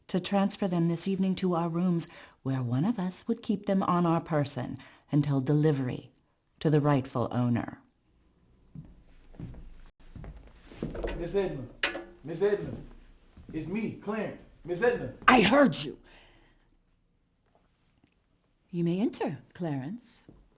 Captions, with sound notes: to transfer them this evening to our rooms where one of us would keep them on our person until delivery to the rightful owner. (footsteps approaching) - Miss Edna. Miss Edna. It's me, Clarence, Miss Edna. - I heard you! You may enter, Clarence.